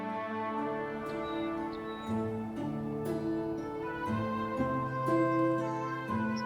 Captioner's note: solemn music continues; birds chirp